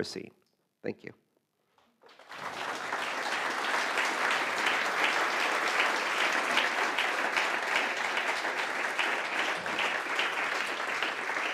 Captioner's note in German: Applaus